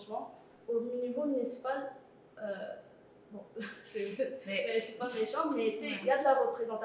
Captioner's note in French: rires